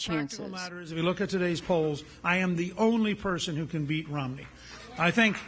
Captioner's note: applause